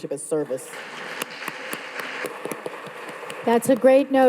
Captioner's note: all applauding